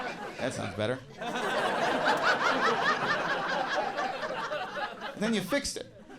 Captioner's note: audience laughing